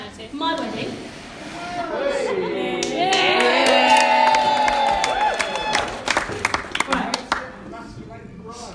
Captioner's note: cheering Applause